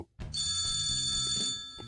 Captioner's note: phone ringing